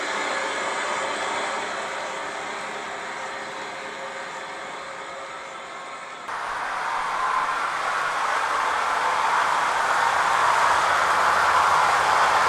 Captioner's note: applause